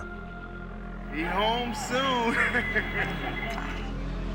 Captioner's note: humorless laugh